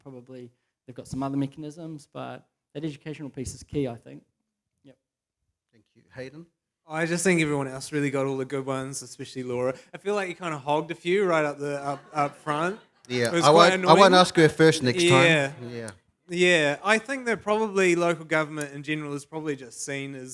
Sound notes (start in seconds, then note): 11.6 laughter